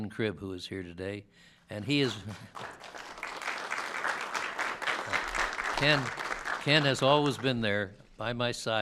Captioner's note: applause